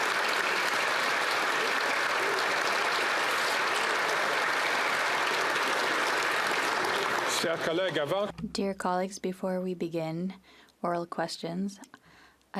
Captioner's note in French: applaudissements